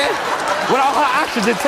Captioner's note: audience applauds